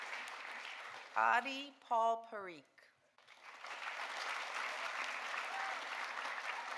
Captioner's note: audience applauding